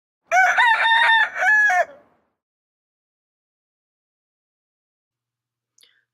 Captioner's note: rooster crows